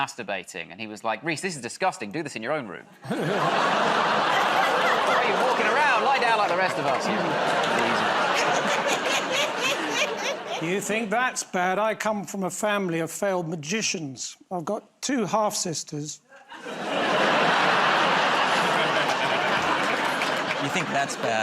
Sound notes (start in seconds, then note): 3.8 audience groans; 9.3 laughter; 16.4 laughter